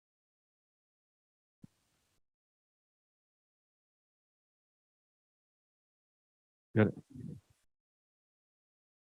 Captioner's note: silence